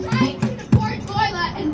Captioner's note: crowd cheering